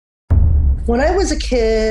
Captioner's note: electronic boom